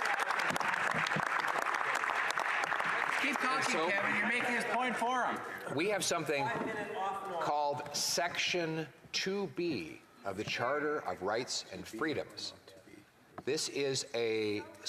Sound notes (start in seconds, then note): 1.6 applause